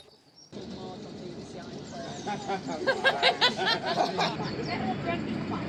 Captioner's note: pub chatter/laughing